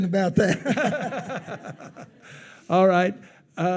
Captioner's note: attendees laughing